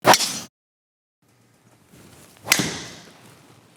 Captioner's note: club smacking